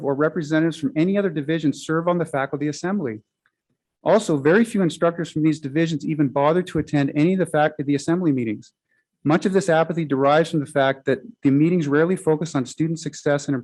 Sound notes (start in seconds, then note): none